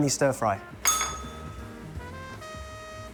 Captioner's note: bell rings